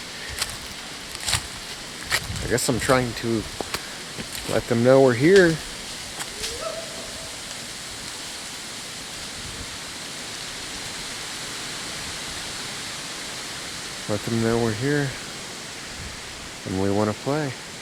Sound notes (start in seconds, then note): 0.2 leaves crunching; 6.3 whoop hollers; 10.3 wind gusting